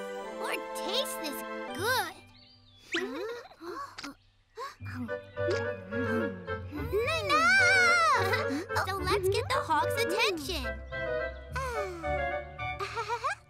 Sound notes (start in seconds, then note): 2.9 chuckles; 4.4 Chumli gasps; 12.7 chuckles